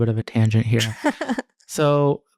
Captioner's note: laughing